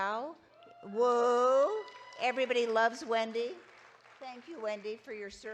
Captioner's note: audience applauding